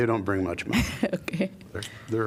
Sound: laughter

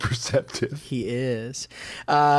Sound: chuckle

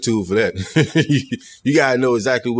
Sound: chuckling

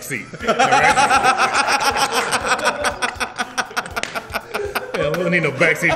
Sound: laugh

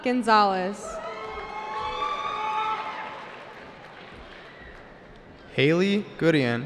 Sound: cheering

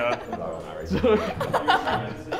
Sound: laughs

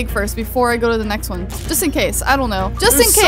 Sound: none

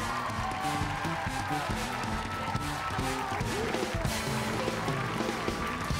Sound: applause

